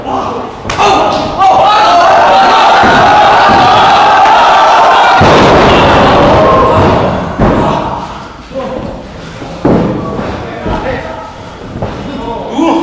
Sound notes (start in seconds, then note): 5.0 boom